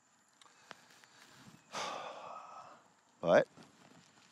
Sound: sighs

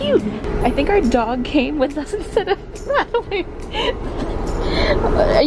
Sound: laughing

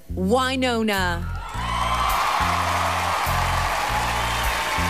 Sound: cheering

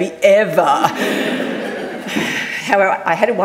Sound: audience laughing

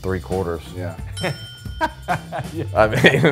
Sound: bell dinging; man laughing

